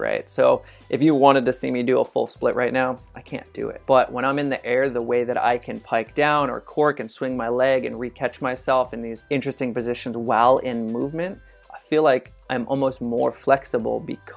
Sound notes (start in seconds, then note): none